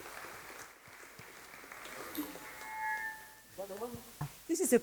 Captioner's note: applause